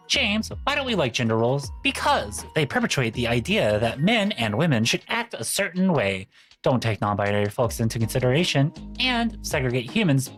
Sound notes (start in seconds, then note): none